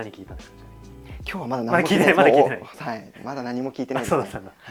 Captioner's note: laughs